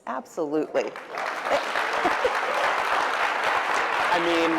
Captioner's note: applause